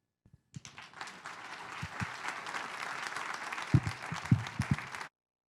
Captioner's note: audience applauding